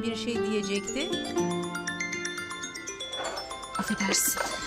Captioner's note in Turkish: Telefon zili sesi